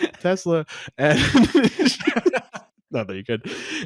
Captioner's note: both laugh